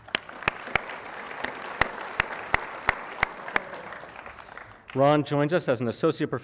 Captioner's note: applause